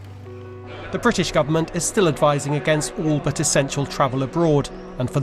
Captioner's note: rolling news audio